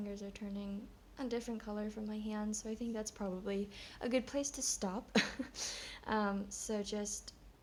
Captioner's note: chuckles